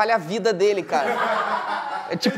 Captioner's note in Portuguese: risadas